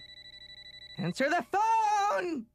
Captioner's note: cell phone ringing